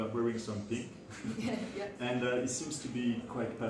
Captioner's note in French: rires